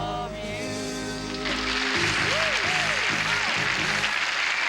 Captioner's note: applause